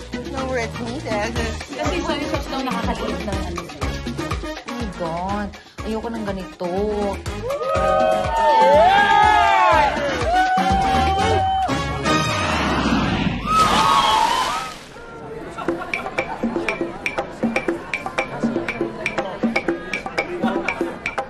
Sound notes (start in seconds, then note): 13.4 water splashing; 15.6 bright music playing